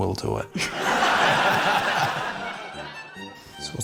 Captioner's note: laughter